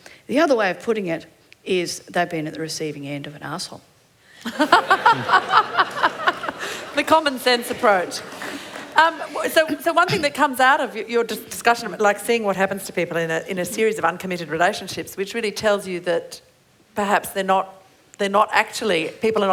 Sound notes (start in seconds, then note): 4.4 laughter